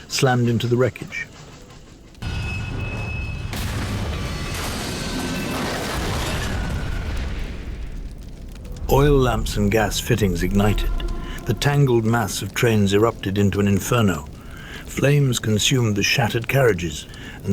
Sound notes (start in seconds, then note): 2.3 brakes squeaking; 6.0 train collision banging